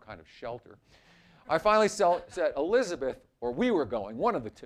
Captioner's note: laughter